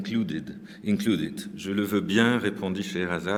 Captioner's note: french